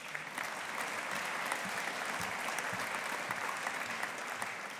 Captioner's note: audience applauding